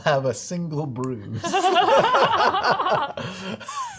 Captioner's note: laughter